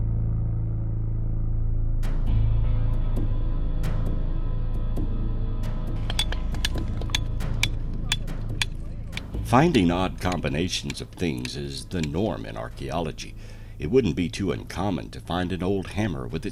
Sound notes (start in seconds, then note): 6.0 rock clattering